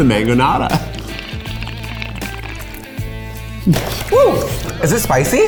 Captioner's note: both slurping